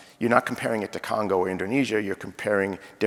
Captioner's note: none